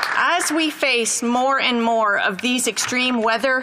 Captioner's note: applause